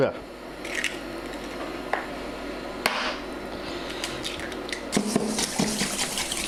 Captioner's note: cracking eggs quickly